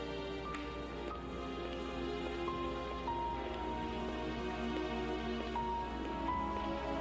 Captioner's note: feet clacking; switch clicks; suspenseful music continues